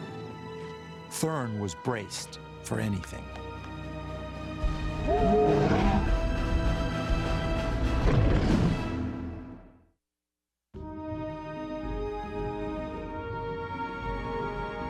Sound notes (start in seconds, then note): 5.0 dinosaur roars; 7.3 dramatic suspenseful music